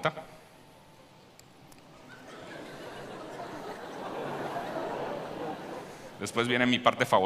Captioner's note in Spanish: Risas